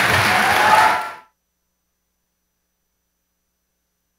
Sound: audience applauding

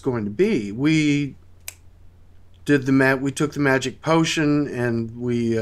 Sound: finger-clicks

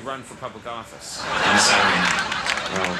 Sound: crowd laughs

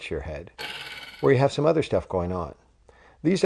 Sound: spring noise

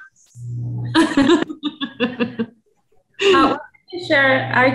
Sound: laughs

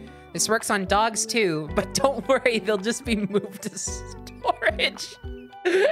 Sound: cracking up

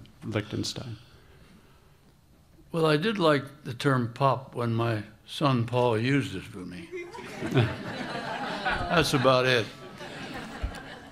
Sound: laughter

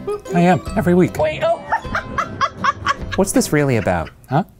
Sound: laughing

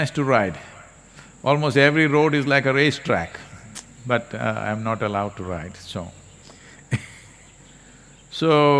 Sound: laughs

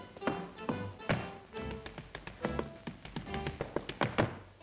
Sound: tapping

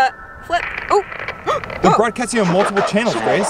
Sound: gasps

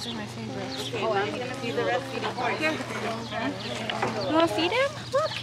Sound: people chattering indistinctly

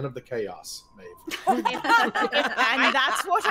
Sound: players laughing

